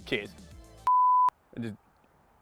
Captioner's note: beep